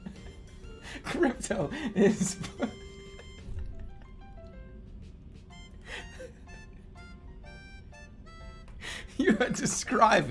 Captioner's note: giggling; continues giggling